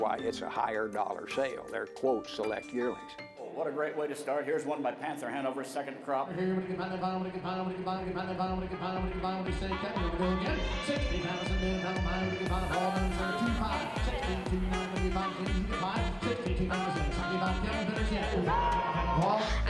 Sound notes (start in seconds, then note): 6.8 auctioneer's chant